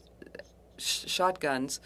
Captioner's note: speaking French